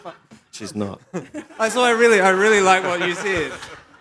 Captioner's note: laughter